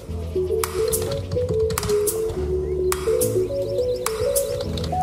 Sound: keyboard typing

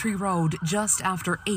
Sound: sirens

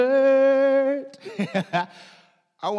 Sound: laughs

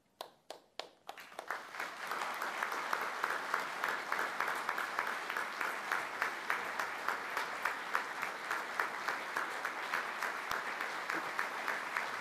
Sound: applause

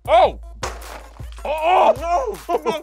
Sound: box clatters

